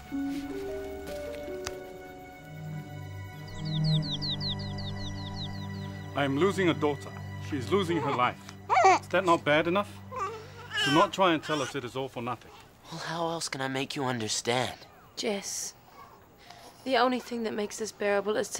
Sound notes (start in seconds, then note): 4.0 birds singing